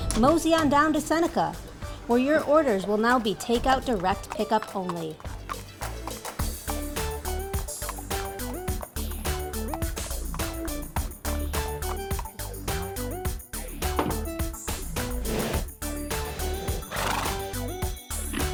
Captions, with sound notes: Mosey on down to Seneca, where your orders will now be takeout, direct pickup only. (horse trotting) (bottle thuds) (air whooshing) (horse snorting)